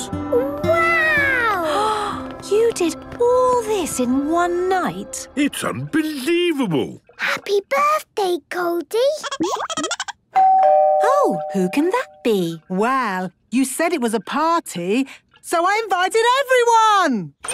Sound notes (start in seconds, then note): 8.5 Goldie giggling; 10.3 doorbell ringing